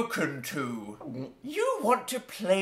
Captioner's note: gulps